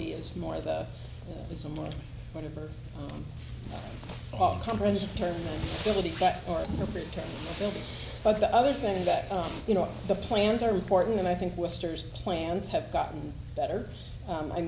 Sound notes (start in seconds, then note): none